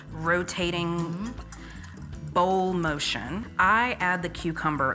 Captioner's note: whisk scraping